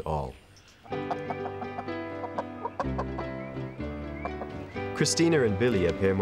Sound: chickens clucking

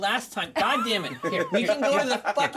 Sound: laughs

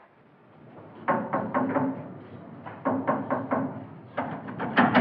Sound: knock On Door

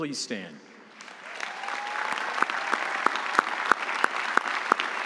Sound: audience applauding

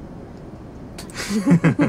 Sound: both laugh

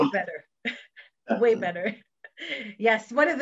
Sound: laughs

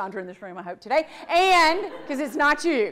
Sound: audience laughs

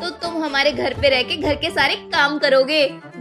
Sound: none

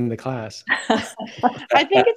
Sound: laughing

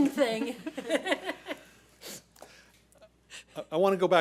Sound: board laughs

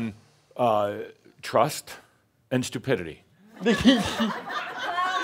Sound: laughter

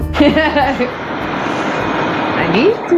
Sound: chuckles

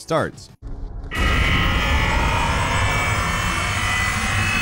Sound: code shrieking

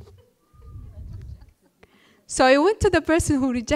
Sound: laughter

